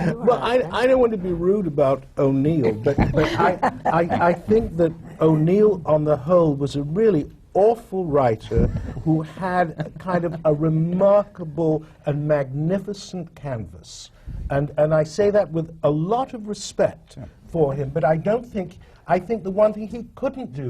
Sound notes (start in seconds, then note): 8.6 laughter from the panel